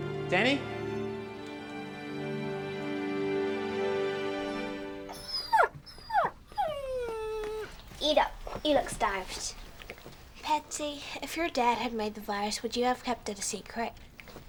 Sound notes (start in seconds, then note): 5.0 Bob whines